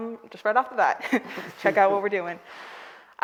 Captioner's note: all laughing